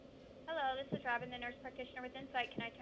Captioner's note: over speaker